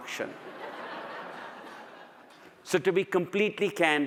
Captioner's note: audience laughs